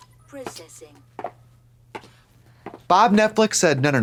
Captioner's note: heels clack